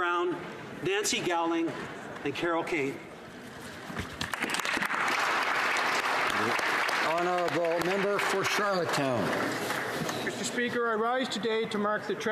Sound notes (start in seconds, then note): 8.3 applause